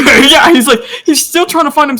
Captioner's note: breathes